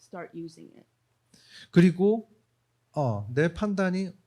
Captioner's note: speaking korean